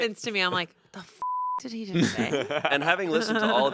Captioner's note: beep